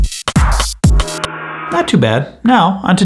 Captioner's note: intense club music; gong echoes